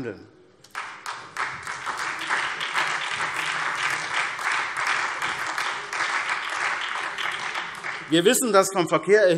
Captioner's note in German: Beifall SPD